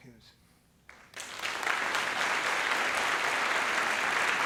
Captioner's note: applause